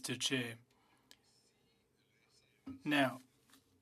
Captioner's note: speaking French